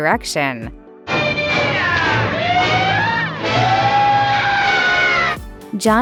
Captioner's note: various exuberant yeehaws